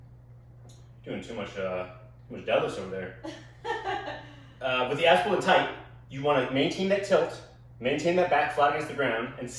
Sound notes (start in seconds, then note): 3.3 laughs loudly